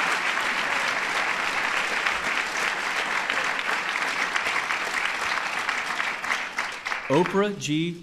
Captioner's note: applause